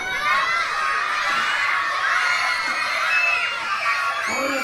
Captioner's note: children screaming